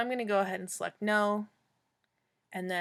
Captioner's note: clicking sound